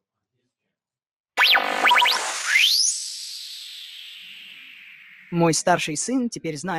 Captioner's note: sci-fi sound effects